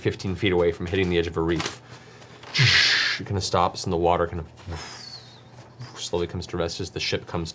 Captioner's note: grinding sound; whistling